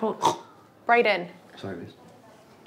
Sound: Brayden snorting

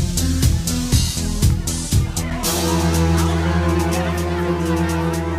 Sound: people clamoring

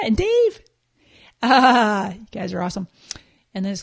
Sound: laughing

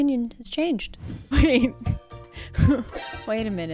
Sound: laughs

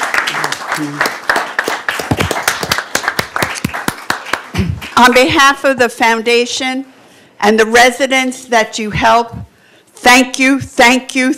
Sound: applause

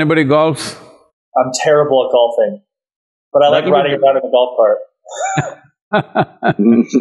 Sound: laughter

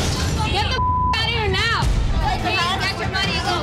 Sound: shouting

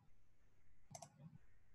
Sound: mouse click

